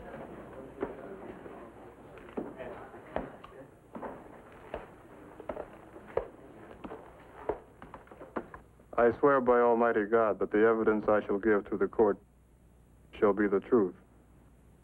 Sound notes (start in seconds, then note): 3.9 Kanda's footsteps